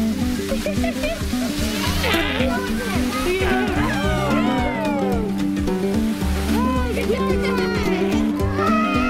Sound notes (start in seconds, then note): 3.5 cheering; 6.6 laughing